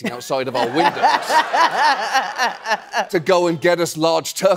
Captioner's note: laughing